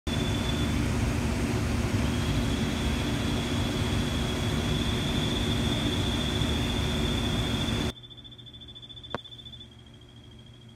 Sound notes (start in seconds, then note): 0.0 frogs chirping